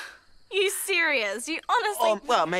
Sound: scoff

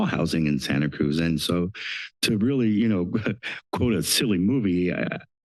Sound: laugh

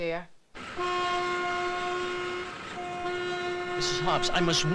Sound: horns honking

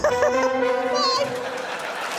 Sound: Sarah laughs

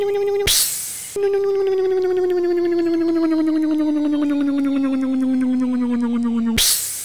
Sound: electric motor hum; hiss

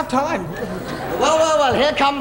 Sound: audience laughs

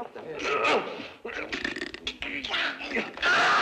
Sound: grunting; groaning

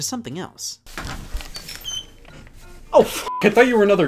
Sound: door squeaking; beep

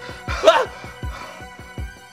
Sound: Dave yelps

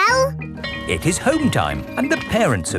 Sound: bell tolling

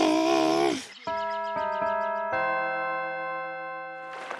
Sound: Ruby growls; church bell rings

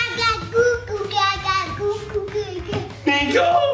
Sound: cooing

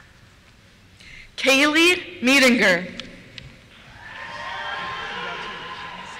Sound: cheers

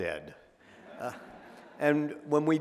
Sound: audience laughing

